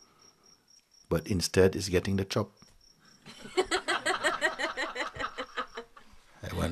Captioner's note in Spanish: risas